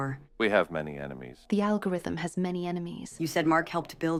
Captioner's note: none